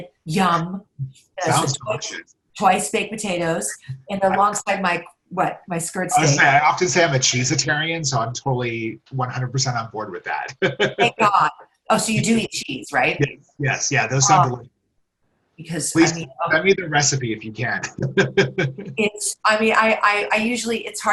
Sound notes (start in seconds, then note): 10.8 laughs; 18.2 laughs